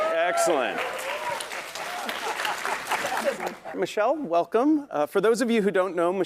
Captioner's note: applause